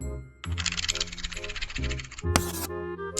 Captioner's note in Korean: 사각사각사각사각사각사각사각